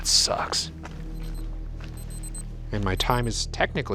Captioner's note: timer beeping